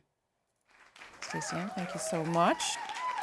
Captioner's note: applause